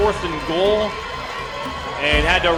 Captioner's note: crowd